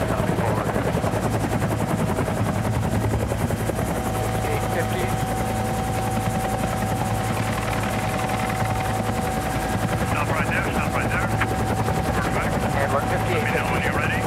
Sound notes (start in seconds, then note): 3.5 rotors thrumming